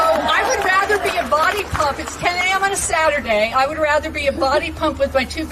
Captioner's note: applause